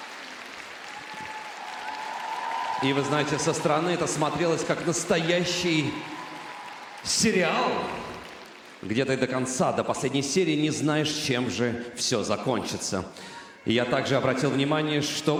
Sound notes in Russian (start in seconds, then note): 0.0 аплодисменты